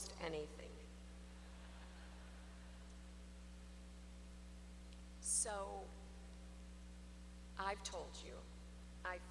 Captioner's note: laughter